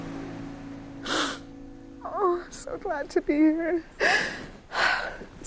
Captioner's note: crying